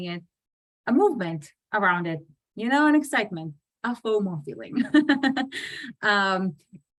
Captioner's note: laughs